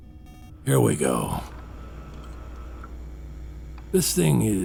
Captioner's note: sounds of mechanisms